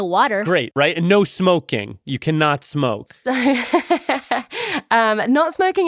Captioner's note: laughs